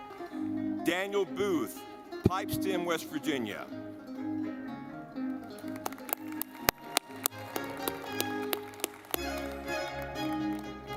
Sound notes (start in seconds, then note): 3.8 audience clapping; 3.8 lively music